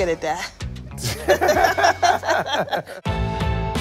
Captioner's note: laughter